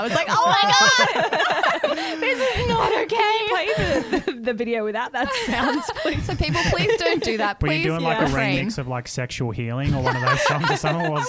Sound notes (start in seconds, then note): 1.7 laughing together